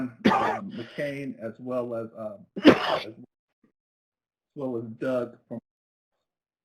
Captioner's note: sneezes